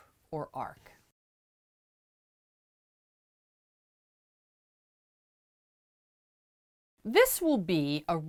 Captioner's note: no Sound Present